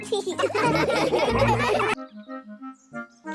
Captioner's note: laughing